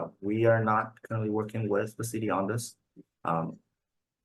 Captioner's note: none